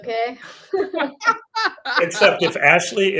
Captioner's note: both laughs